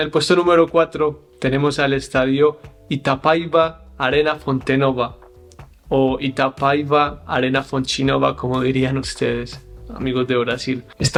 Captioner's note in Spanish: en portugués